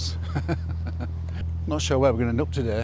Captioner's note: laughs